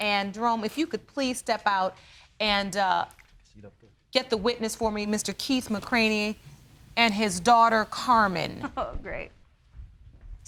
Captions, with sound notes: And Jerome, if you could please step out... The seat up there. ...and get the witness for me, Mr. Keith McCraney and his daughter, Karmen. (CHUCKLES) Oh, great.